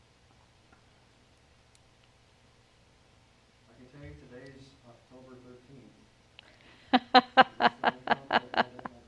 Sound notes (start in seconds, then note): 3.7 murmuring; 6.8 laughs